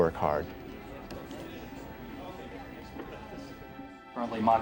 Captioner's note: crowd mumbling